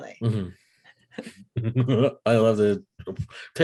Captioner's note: laughing